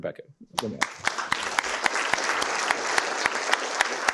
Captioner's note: applause